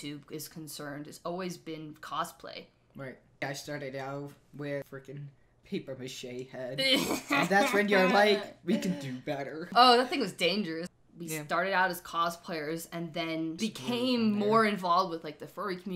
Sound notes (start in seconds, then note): 6.9 sniggers